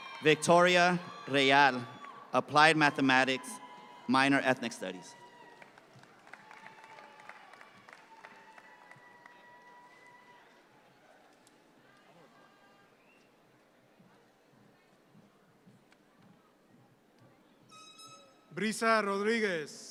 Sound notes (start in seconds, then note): 0.0 audience cheer; 5.2 audience claps